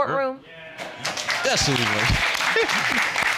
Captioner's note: audience applauding; chuckles